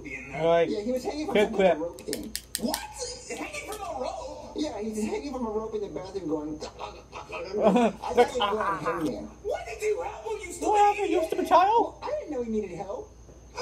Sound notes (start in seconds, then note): 6.6 chuckles, imitate choking; 6.6 imitate choking